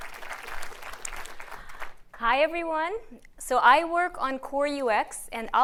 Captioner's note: applause